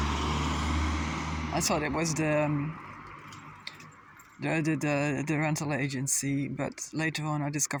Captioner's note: traffice noise